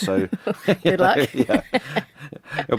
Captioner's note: laughing